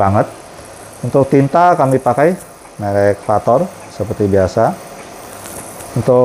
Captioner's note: printer machine noise